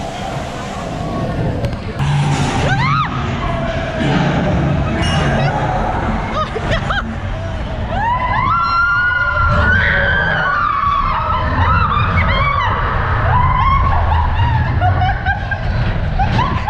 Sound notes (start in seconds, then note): 2.2 laughing and screaming